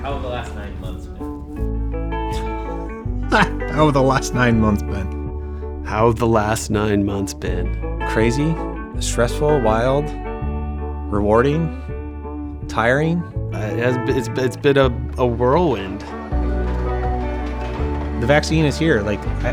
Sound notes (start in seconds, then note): 3.2 laughs